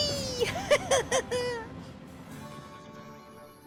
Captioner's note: philip chuckles